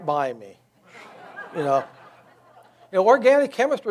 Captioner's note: audience laughs